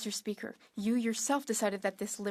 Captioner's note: speaking French